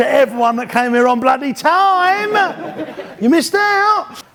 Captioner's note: audience laughs